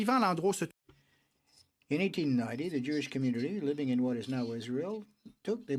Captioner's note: speaking in french